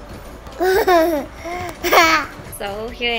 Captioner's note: laughs